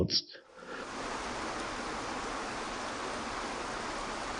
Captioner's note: water rushing